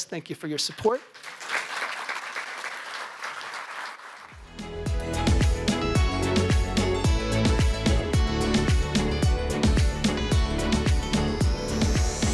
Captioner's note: applause